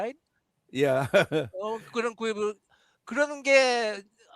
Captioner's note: non-english speech